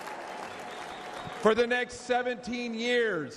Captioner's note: applause